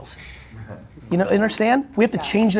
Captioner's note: laughing